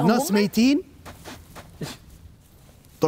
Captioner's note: digging